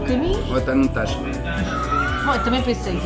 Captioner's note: laughs